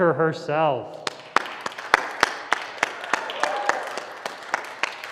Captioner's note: applause